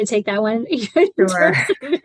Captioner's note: laughter